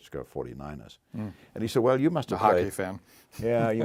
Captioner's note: laugh